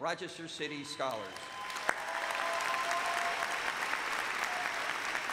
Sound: cheers and applause

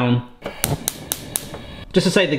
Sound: cooker clicking

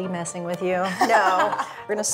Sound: laughs

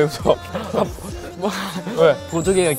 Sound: stutter

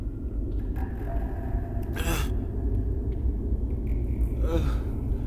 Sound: water drips

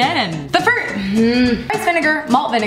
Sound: groans

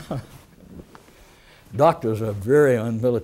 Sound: laughter

